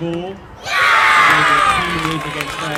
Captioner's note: jubilant cheers